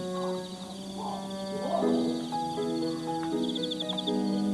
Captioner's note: gentle music; dinosaurs roaring